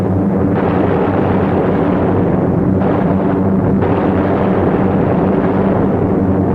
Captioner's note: plane engines humming; gunfire sounding